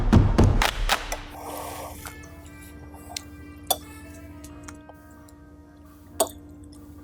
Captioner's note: upbeat music; spoon clanking